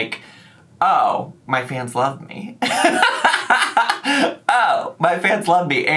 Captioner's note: laughs